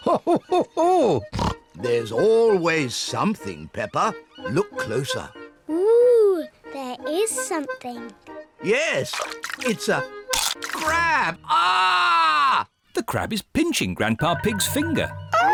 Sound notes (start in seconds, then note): 10.3 crunch; 10.9 screams